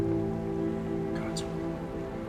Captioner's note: whispers